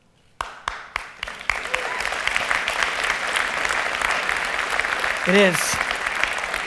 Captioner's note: audience applause